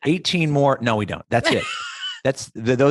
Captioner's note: laughs